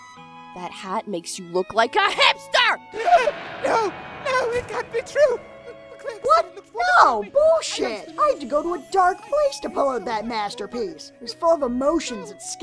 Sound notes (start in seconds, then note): 2.9 Grimlock gasps; 7.6 trails off, mumbling to himself